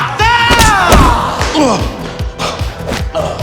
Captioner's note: yells in foreign language; Anton groans; dramatic dance music